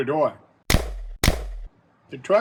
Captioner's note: gun shots